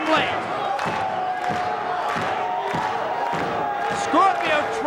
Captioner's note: crowd clapping